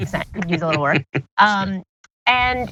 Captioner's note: laugh